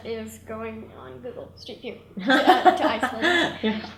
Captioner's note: laughs